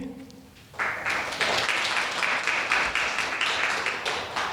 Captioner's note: audience applauding